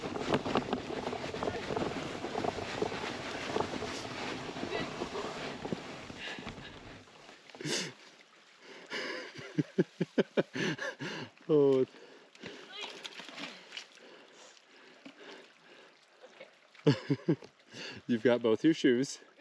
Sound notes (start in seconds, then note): 13.5 laughing